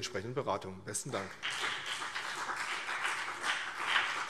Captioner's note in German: Beifall CDU und BÜNDNIS 90/DIE GRÜNEN